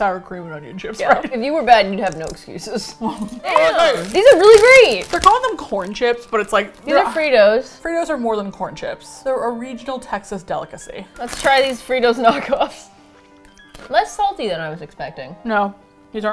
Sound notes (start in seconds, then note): 3.0 both laugh; 3.0 laughs; 4.2 mouth full; 12.2 laughs